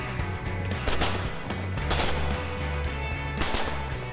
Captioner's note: gunfire